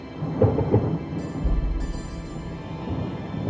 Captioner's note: thunder rumbling